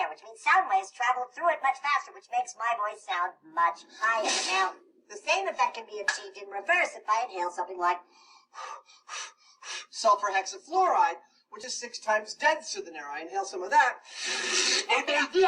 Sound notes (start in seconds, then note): 8.1 quickly breathes